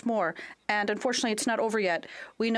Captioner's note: speaking French